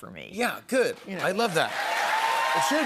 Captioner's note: cheers and applause